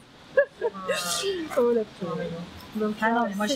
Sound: laughs

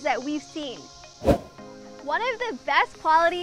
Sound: fast wind sound

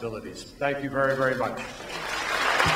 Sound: applause

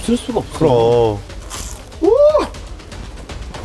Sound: Crunch

